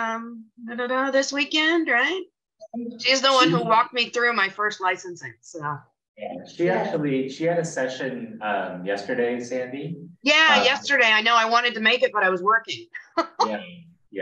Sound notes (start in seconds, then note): 13.0 chuckles